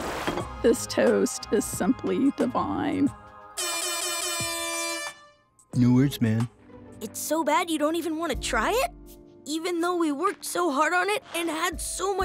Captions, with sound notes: This toast is simply divine. [air horn blowing] It works, man. It's so bad you don't even want to try it? Even though we worked so hard on it and had so much fun